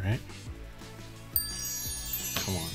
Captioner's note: text tinkling; hands clapping